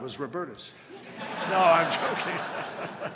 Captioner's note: laughter